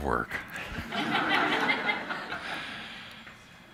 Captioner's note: laughter